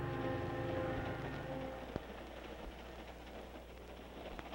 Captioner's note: train rattling